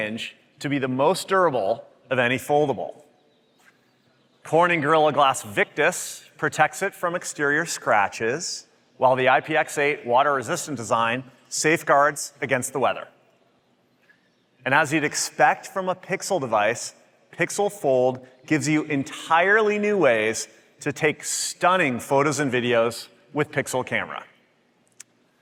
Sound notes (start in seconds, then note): none